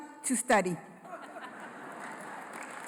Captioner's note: laughter; applause